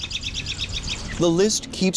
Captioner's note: bird loudly chirping